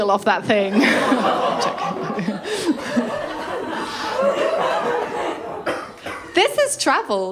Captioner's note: laughter